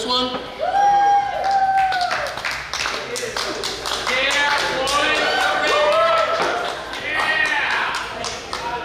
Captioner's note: cheering & Clapping